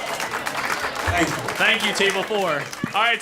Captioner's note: applause